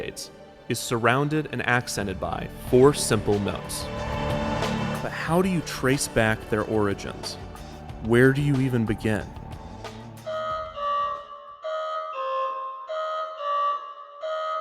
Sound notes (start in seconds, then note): 10.2 alarm blaring